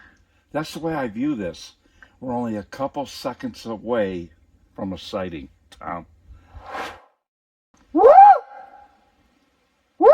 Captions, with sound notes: - That's the way I view this. We're only a couple seconds away from a sighting, Tom. (air swooshes) - Woo! Woo!